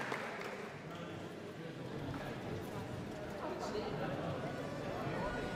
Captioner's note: indistinct audience chatter